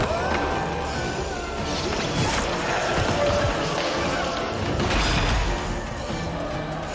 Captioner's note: revenants screeching; weapons scraping